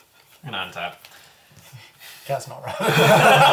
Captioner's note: raucous laughter